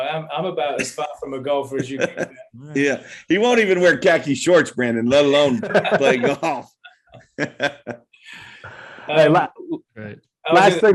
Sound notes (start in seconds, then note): 6.9 laughter